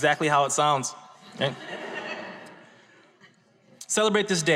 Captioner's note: audience laughs